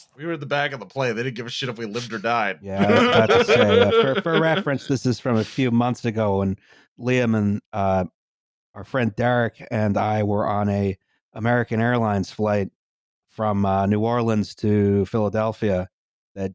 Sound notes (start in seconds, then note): 2.7 laughter